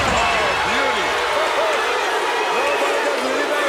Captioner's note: crowd barking